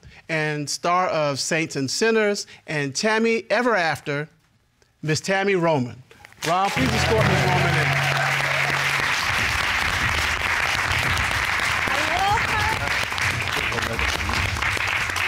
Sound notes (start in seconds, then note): 8.1 audience cheering; 13.7 audience applauding